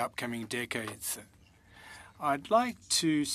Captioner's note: speaking French